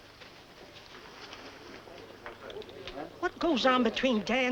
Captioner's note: people chatting